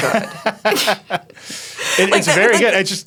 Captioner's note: laughing